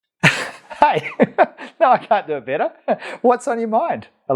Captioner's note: laughs